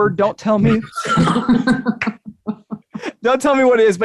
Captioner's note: all chuckling